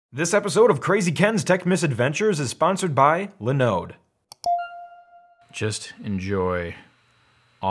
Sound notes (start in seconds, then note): 4.3 computer mouse click; 4.5 chime